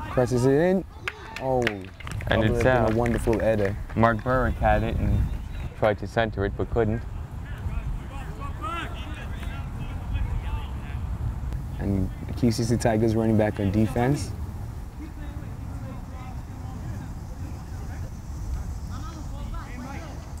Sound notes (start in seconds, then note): 8.2 players talking and yelling; 16.3 players talking and yelling